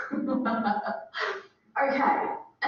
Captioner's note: laughing